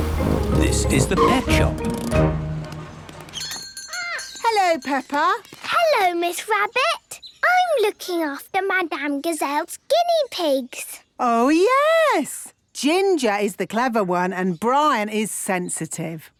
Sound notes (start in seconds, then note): 3.3 bell jingling